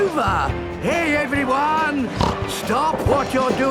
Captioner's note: snorts